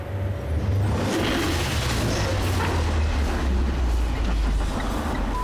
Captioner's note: truck crashing